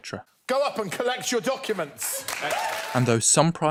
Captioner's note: applause